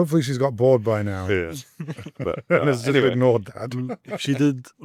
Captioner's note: laughter